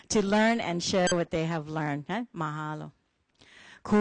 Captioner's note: foreign language